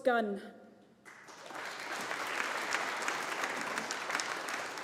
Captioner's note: audience applauding